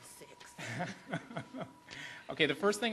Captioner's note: laughs